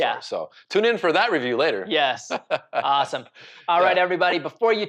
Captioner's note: laughs